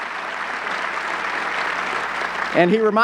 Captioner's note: audience clapping